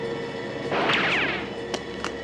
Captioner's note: gun fires